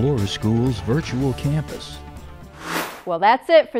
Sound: sound Effects

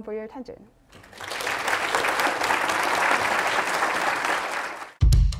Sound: applause

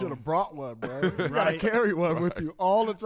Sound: laughs

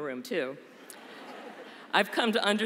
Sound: laughter

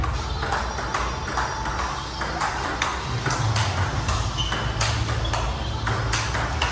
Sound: ball tapping rapidly

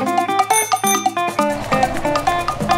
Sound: bicycle bell

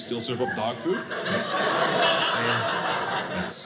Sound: audience laughing

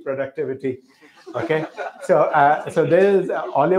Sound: laughter

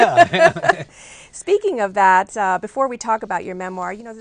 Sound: laughter

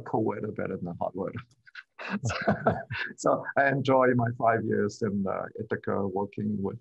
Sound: laughter

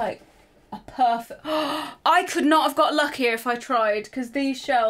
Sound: gasps

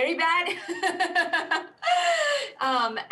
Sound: laughs

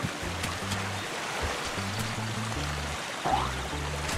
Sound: water sound

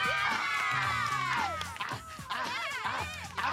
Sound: girls cheer; grunting

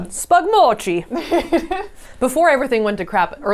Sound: laughs

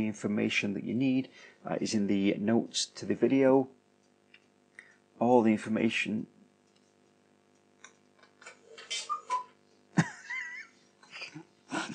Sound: laugh

